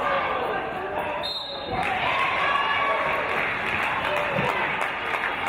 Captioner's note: referee's whistle